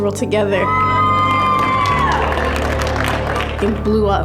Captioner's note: cheering and applause